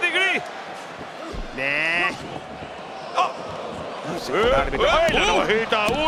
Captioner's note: applause